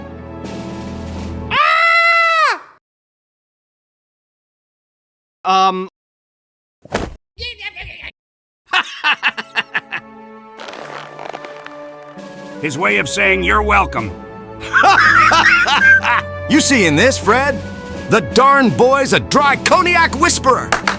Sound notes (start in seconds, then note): 1.5 Dryconiac calmly screams; 8.7 Dryconiac happy sounds; 8.7 Beanie laughs; 14.6 Carvalho guffaws